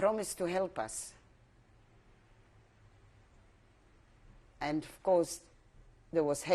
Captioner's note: pauses for 3 seconds